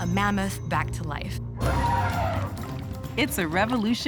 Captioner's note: roaring